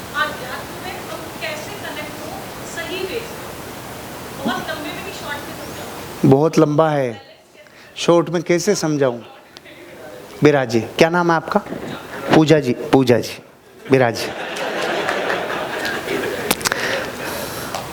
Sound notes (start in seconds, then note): 13.7 laughing